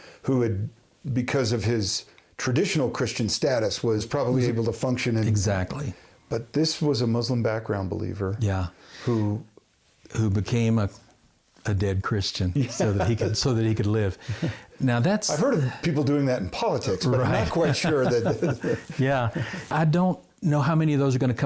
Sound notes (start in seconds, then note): 12.6 chuckles